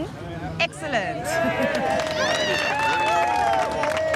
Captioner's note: crowd cheers